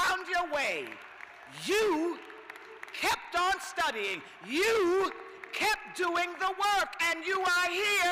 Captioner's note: cheers and applause